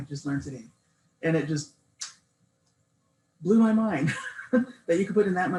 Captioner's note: laughs